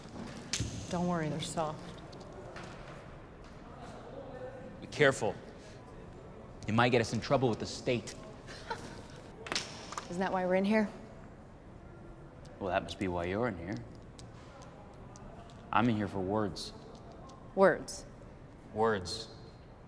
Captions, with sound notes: Don't worry, they're soft. Be careful. You might get us in trouble with the state. [laughs] Isn't that why we're in here? Well, that must be why you're in here. I'm in here for words. Words? Words.